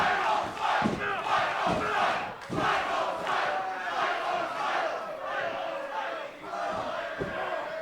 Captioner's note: fans chanting